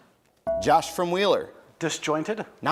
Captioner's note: bell rings